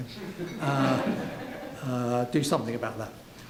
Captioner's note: laughing